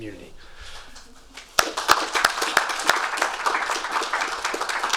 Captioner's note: audience clapping